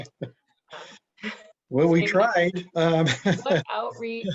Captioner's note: laughs